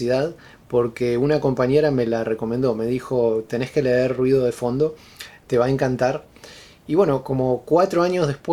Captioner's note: white Noise